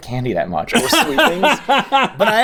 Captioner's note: Rhett laughs